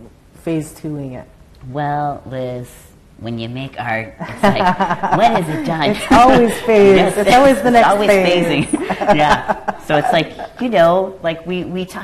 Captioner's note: laughter